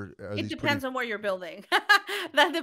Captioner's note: laughing